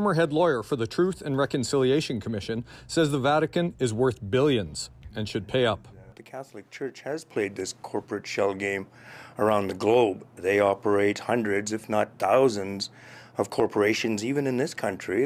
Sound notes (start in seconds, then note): none